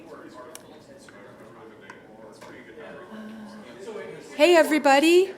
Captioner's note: background chatter